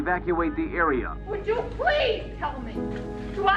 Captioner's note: shouting